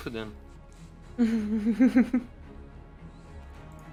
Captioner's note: chuckles